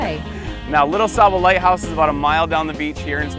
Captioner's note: laughing